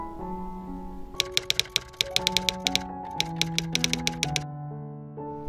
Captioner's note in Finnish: kirjoituskoneen naputusta